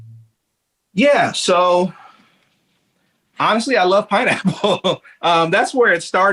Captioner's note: chuckles